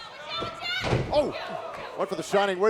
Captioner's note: wrestlers shout